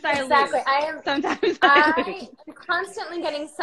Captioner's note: laughs